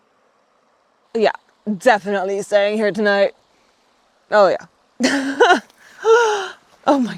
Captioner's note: chuckles